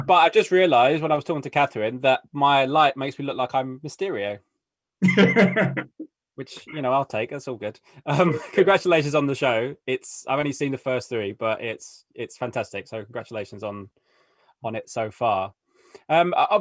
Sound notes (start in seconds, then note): 5.0 laughing